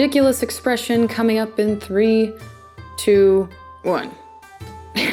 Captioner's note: chuckles